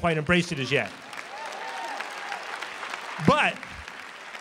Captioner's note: applause